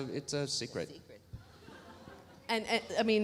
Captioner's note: audience laughs